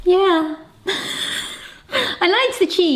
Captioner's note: laughs